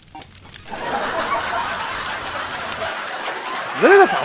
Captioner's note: registered Laughter, applause